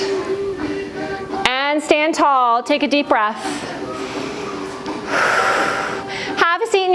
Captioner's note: breath